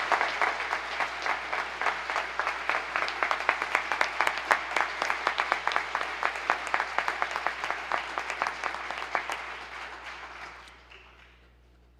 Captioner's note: applause